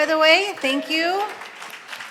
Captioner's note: applause